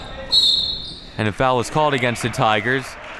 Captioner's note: whistle blowing